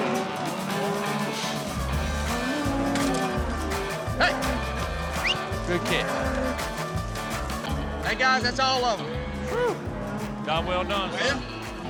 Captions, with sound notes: [MOOING] HEY! [WHISTLES] [MOOING] HEY GUYS, THAT'S ALL OF EM. WHOO! JOB WELL DONE.